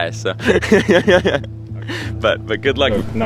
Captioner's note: laughs